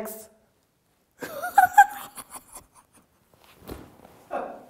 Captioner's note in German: Sie lacht